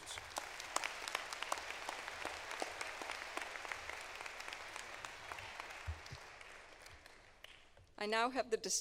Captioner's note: applause